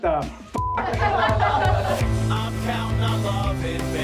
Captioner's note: laughter